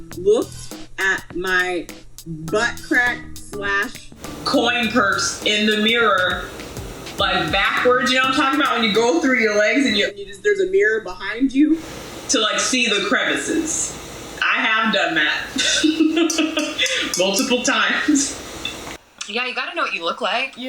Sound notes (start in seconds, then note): 15.5 laughs happily